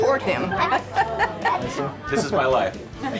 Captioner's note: laughing